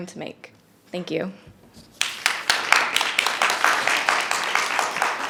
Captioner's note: audience applauding